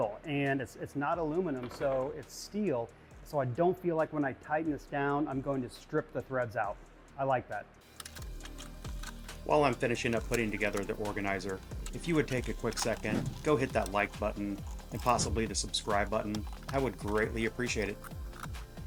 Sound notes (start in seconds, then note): 8.1 components clanking; 8.1 upbeat music